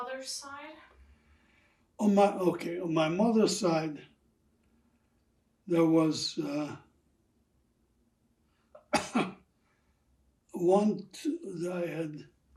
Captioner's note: coughing